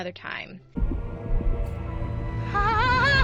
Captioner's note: heart thudding